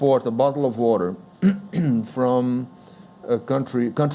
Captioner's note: clears throat